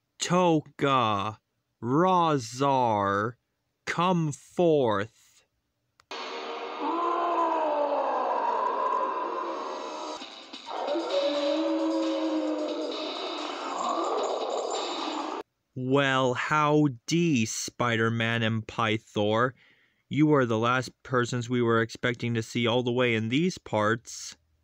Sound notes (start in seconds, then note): 6.2 Rahzar Howls; 6.2 Tokka Roars